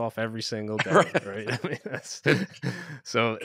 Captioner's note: chuckles